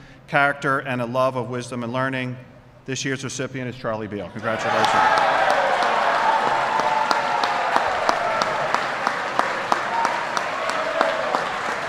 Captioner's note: applause